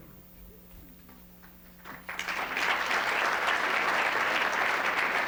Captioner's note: applause